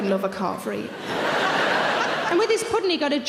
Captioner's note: audience laughing